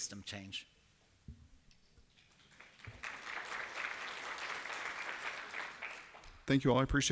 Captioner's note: applause